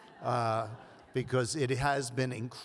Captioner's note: audience laughs